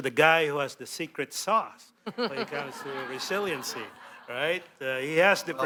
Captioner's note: laughter